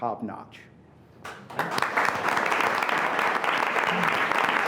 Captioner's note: applause